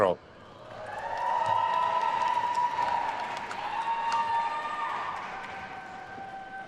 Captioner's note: attendees cheering and applauding